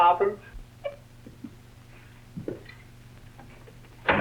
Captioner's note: steps plod